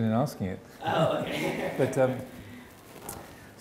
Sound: laughs

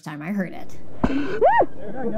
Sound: inhaling

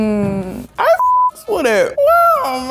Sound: beep

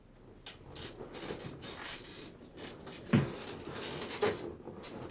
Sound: bed creaking

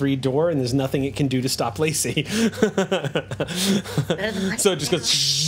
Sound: laughs

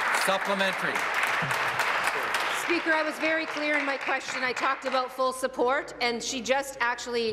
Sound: applause

